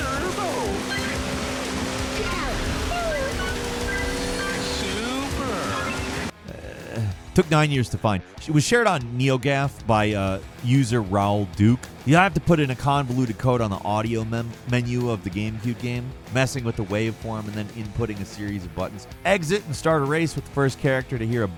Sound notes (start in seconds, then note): 1.9 electronic beeping